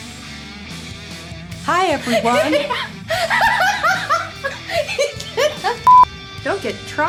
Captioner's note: uncontrollable laughter